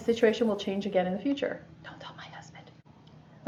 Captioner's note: whispers